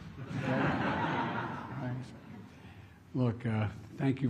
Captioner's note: laughter